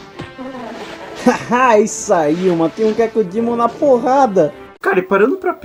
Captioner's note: laughs